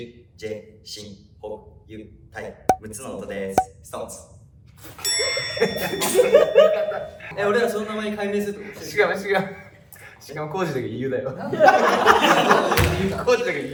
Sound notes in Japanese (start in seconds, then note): 5.1 効果音：チーン; 5.5 笑い声; 11.3 笑い声